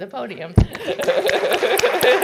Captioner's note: applause